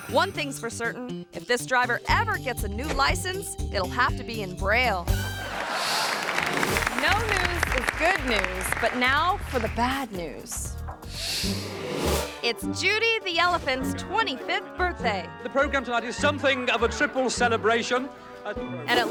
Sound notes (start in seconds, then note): 5.4 audience laughs; 5.4 audience applause